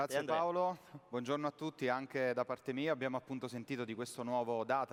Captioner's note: speaking italian